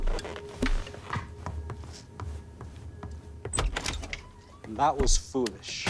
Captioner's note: shoes clacking